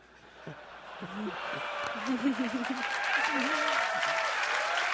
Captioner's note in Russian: Бурные овации